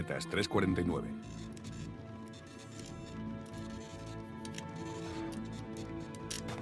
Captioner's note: printer whirring; static